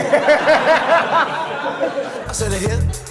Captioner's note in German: Lachen